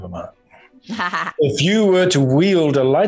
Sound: Ming-Na giggles

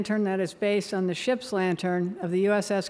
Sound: none

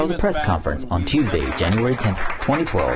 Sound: applause

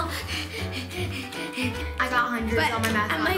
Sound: labored breathing

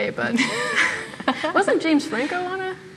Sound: laughs

